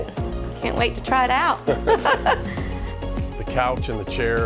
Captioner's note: laughs